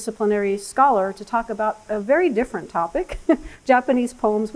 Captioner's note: laughs